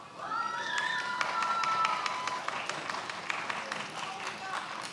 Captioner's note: many applauding